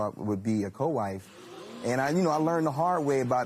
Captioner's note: audience gasps